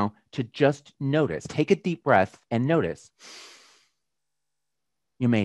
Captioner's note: breathes deeply